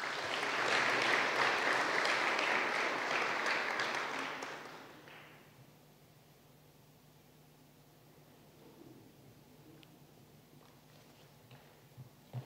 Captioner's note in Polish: oklaski